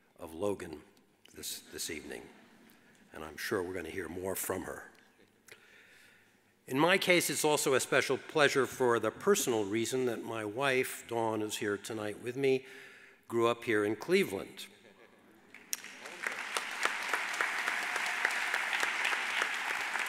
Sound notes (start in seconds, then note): 15.5 audience applauds